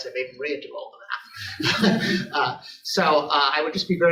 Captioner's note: laughter